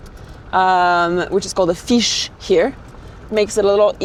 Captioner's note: speaking in foreign language